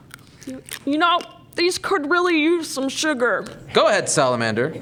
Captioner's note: chewing